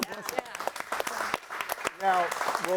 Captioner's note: audience applauding